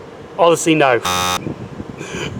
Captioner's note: buzzer Sound